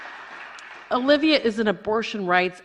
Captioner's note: applause